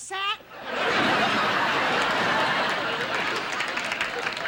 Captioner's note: audience laughing